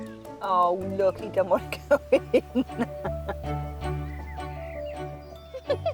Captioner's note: laughing